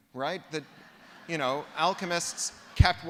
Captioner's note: laughter